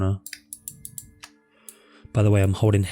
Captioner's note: clicks on mouse